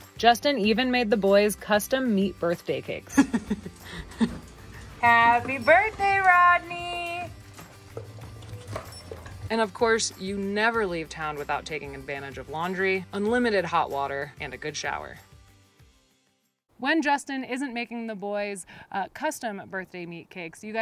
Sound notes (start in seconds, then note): 3.1 laughs; 7.5 dogs munching